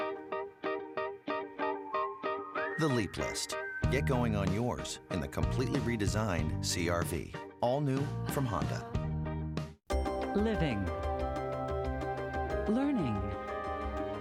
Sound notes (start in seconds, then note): 2.2 whistling